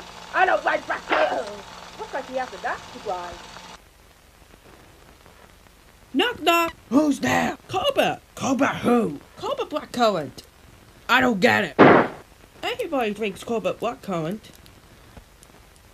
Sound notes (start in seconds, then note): 1.1 smack; 11.8 bang